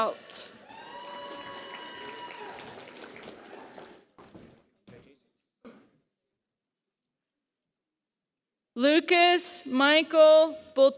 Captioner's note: applause